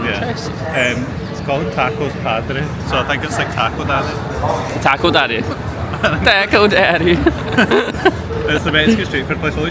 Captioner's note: laughs